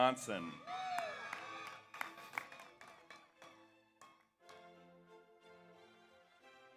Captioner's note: audience applauds; audience cheers